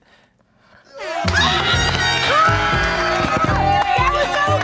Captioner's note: group cheering; upbeat music